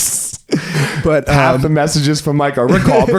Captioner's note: laughing